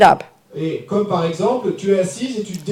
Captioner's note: speaking in French